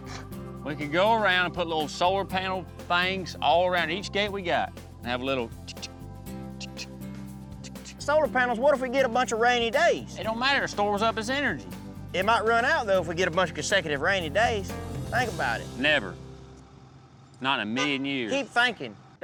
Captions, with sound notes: WE COULD GO AROUND AND PUT LITTLE SOLAR PANEL THINGS ALL AROUND EACH GATE WE GOT AND HAVE A LITTLE... [CLICKING SOUND] SOLAR PANELS? WHAT IF WE GET A BUNCH OF RAINY DAYS? IT DON'T MATTER; IT STORES UP AS ENERGY. IT MIGHT RUN OUT THOUGH IF WE GET A BUNCH OF CONSECUTIVE RAINY DAYS; THINK ABOUT IT. NEVER. NOT IN A MILLION YEARS. KEEP THINKIN'.